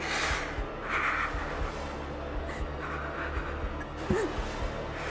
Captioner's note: clown grunting angrily